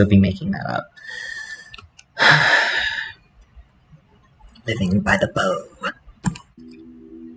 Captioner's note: sigh; weird voice